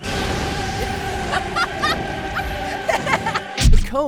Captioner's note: evil maniacal laugh